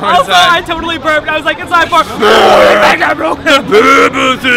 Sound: roar

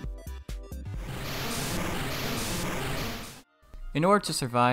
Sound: surf Sound Effect

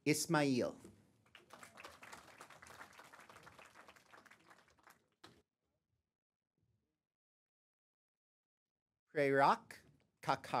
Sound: applause

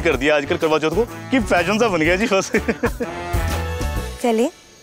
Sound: Guri laughs

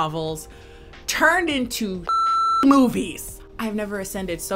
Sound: beep

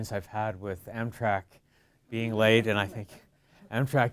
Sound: light chuckling

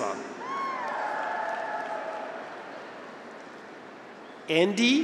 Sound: graduates cheer; audience applauds

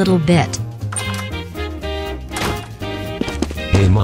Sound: door opening and shutting

